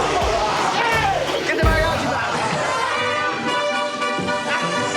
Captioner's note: laughter